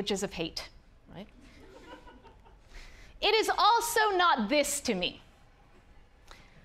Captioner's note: audience laughing